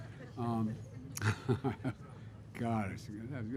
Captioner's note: laughter